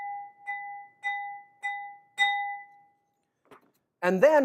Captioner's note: multiple ringing sounds